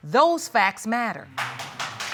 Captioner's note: applause